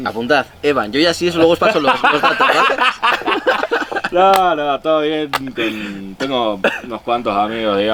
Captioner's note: laughs